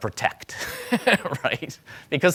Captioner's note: laughing